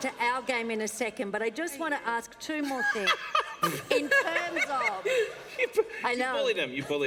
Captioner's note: laughter